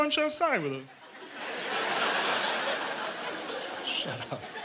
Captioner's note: laughter